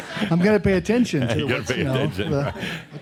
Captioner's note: laughter